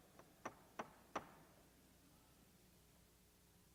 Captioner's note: banging gavel